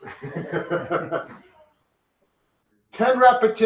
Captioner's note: laugh